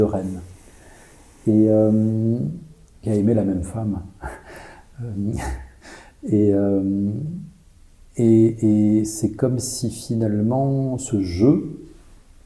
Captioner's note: laughs